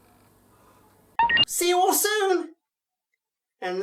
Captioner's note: recording beeps on